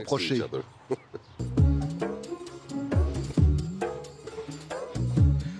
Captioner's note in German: kichert